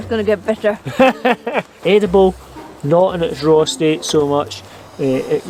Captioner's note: laughs